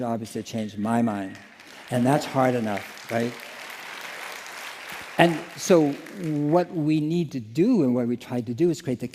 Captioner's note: applause